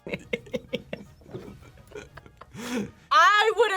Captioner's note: both laugh